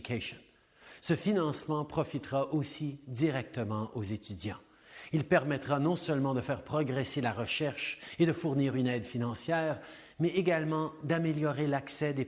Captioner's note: French